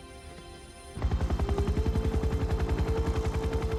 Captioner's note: helicopter whirring